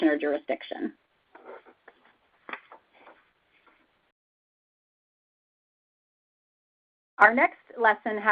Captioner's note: silence